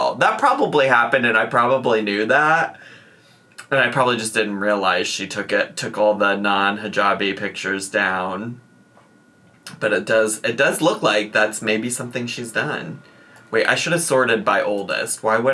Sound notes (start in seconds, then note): none